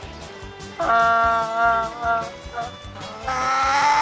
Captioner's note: donkey Screaming; More Donkey Screaming